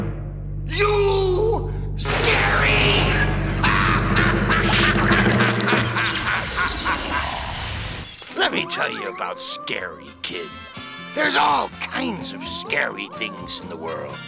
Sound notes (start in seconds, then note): 3.2 laughing